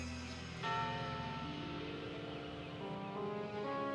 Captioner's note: bell tolls